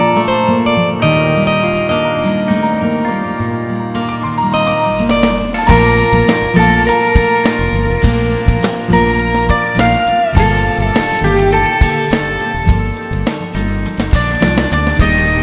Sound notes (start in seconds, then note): none